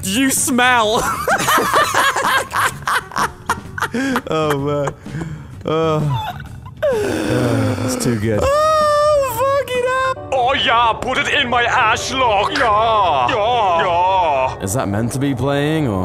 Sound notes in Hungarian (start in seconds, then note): 1.0 Mindketten nevetnek